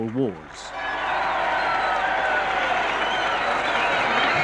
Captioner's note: cheering